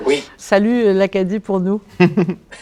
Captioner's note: laughter